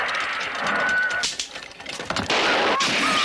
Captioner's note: gun clicks